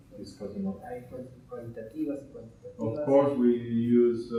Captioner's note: speaking in Spanish